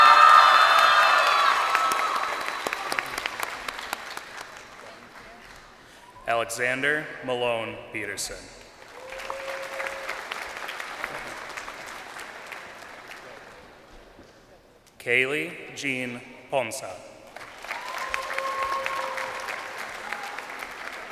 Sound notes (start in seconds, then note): 2.7 crowd cheering; 12.4 crowd applauding